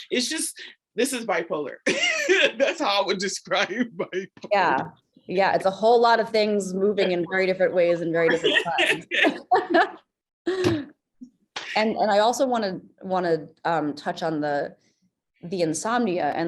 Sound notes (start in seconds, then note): 1.9 laughs; 8.1 laugh